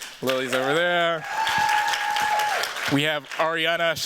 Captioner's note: cheers, applause